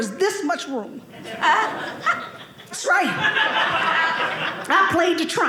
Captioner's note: audience laughing